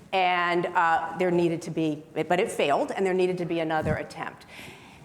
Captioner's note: none